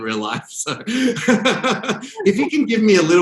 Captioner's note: both laugh